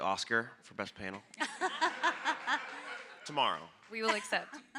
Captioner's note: audience and panelists laughing